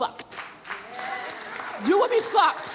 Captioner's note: audience clapping